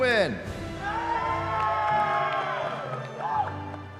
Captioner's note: cheering